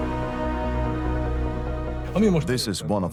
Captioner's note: in Hungarian; dubbed in English